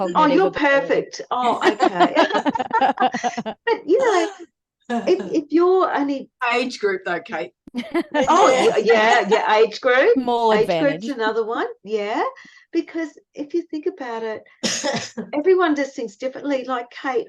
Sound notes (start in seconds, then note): 1.5 everyone is laughing; 7.6 everyone talks and laughs